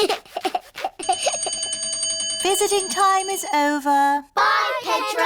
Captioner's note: giggles; bell rings